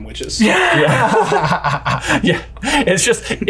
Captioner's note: both laugh